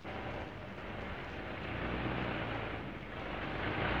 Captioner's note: car accelerating